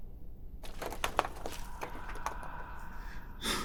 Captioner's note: stones clattering; Pete sniffs; entity loudly breathes